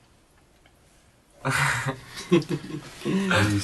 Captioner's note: timid laughs